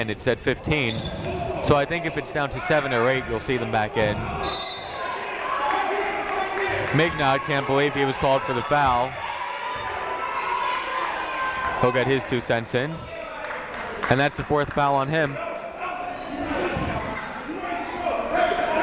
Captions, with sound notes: It's at 15, so I think it's down to seven or eight, you'll see them back in. (whistle blowing) (shouting) (clapping) Mignot can't believe he was called for the foul. He'll get his two cents in. And that's the fourth foul on him. (shouting)